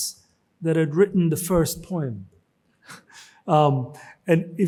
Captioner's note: chuckles